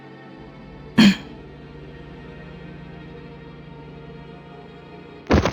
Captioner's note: grunt